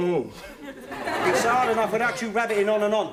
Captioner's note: audience laughing